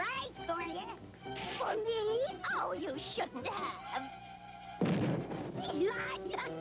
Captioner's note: explosion